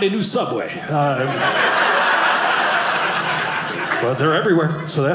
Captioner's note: audience laughing